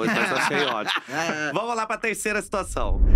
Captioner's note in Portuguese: risos